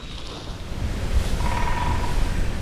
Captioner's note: woodpecker